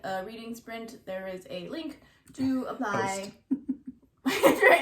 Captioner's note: laughs